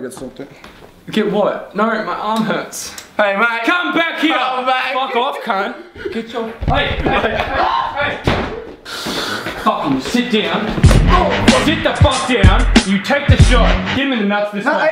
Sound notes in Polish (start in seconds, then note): 7.5 krzyki